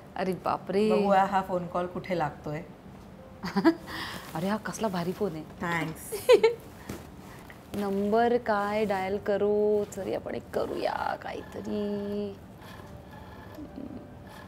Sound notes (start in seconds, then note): 3.4 Chuckles; 6.2 Chuckles